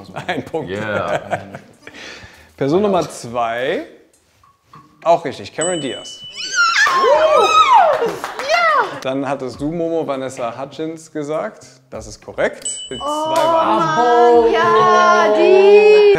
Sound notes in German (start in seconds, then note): 6.6 Jubelrufe